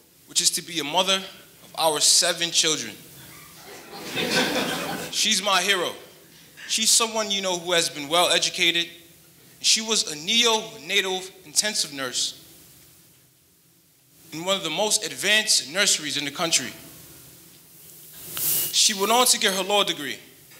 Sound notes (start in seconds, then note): 3.5 audience lightly laughing